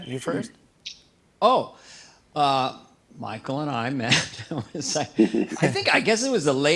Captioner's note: laughs